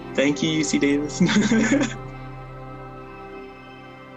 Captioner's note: chuckling